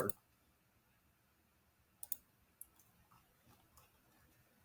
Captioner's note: mouse clicks